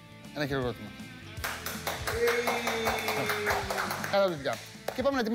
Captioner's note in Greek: Χειροκροτήματα